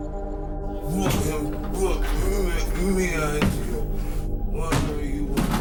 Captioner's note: incoherent groaning